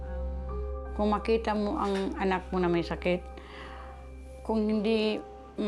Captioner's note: speaks in foreign language